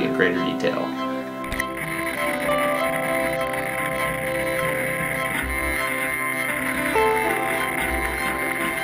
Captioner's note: electronic servo sounds